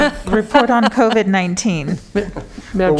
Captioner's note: laughter